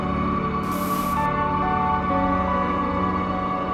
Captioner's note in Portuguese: chiado